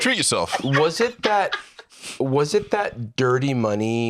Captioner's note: laughs